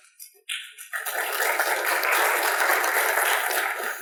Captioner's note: applause